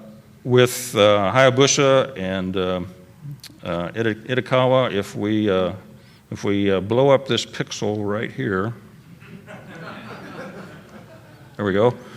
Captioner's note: laughter